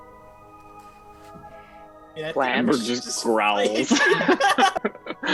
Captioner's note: cast laughs